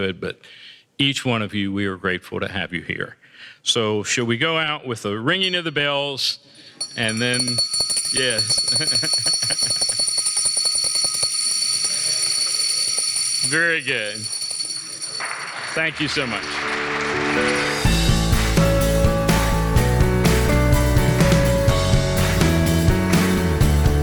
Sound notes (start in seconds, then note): 6.8 bells ringing; 19.6 applause